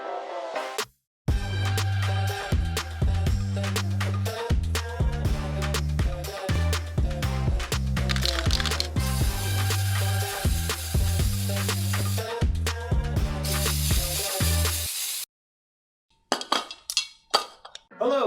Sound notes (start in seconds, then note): 0.0 funky music; 8.0 spray can rattling; 8.1 spray paint hissing; 13.4 spray paint hissing; 16.5 can thumping